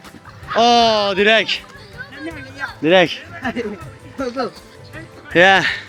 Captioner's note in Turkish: kahkaha